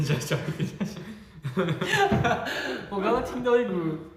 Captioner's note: hahaha